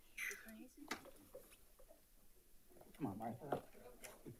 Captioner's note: attendees chattering